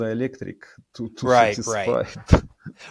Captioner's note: laughing